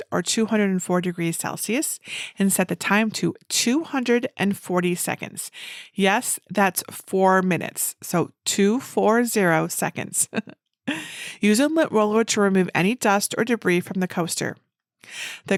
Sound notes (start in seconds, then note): 10.2 chuckles